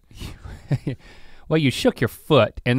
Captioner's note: chuckles